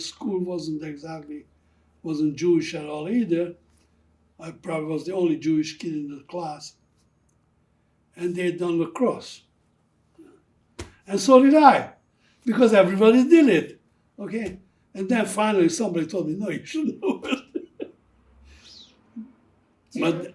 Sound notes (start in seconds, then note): 16.3 laughing